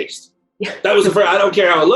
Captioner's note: laughs